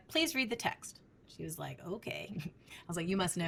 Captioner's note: chuckles